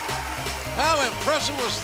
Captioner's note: bell ringing